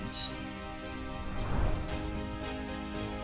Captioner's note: gentle music continues; transition whooshing; gentle music continues